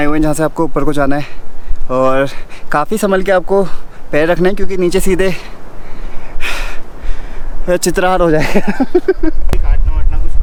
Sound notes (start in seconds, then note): 8.3 laughs